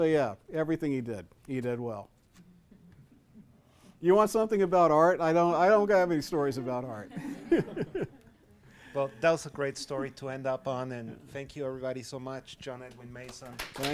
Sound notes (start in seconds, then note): 7.0 laughs